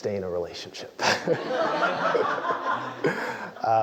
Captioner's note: laugh